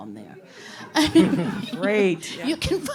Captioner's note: all chuckling